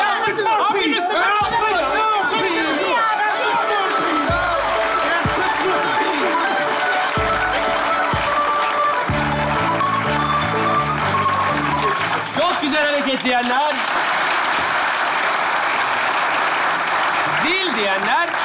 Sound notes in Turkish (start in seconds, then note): 13.7 alkış sesleri